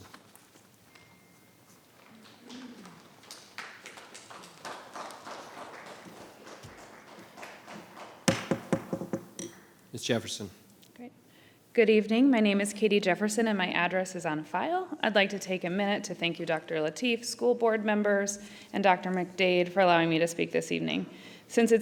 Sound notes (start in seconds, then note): 2.1 audience applauding; 7.7 gavel banging